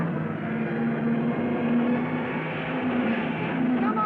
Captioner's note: cars revving